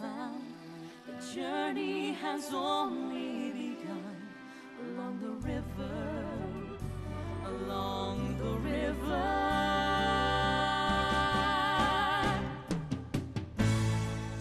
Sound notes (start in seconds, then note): none